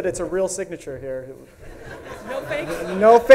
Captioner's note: audience laughs